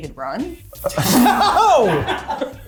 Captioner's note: cast laughing